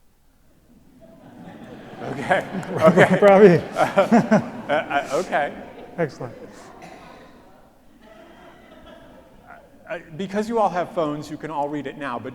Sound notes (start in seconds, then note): 1.1 audience laughs; 1.6 laughs